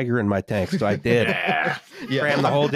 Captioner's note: laughter